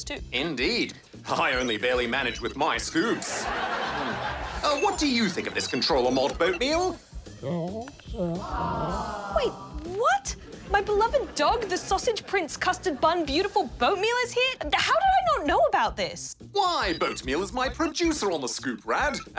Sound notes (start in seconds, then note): 3.1 recorded laughter; 7.4 yawns